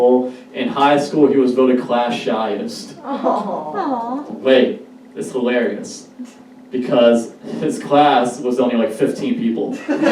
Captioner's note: audience: Awh; audience Laughs